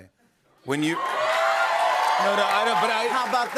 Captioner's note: cheers and applause